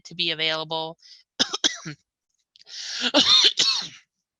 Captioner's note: coughing